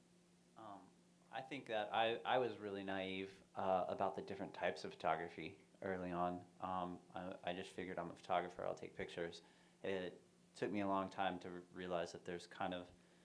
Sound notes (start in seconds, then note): none